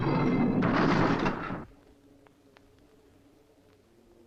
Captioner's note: doors slam